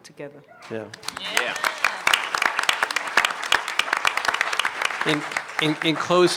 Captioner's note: applause